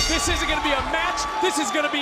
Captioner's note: bell rings